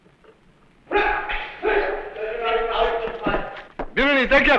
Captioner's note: non-english speech